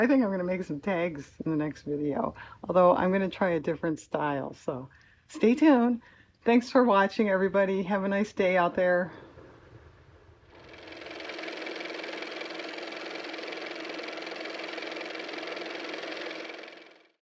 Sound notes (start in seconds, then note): 13.2 car motor